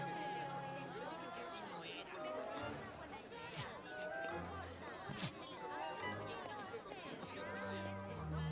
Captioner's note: hum of conversation